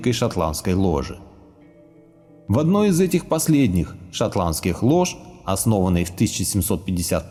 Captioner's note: Scottish